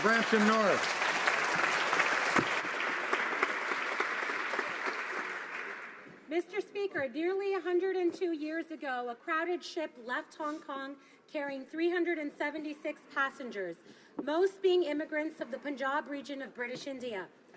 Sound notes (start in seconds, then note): 5.6 some Applause